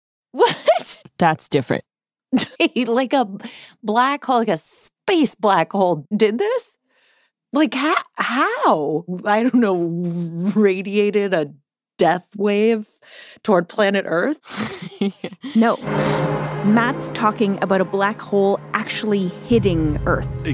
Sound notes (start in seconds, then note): 0.7 laughs; 14.4 laughs